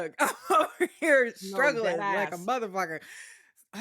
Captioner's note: laughs